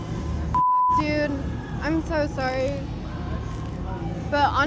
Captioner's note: beep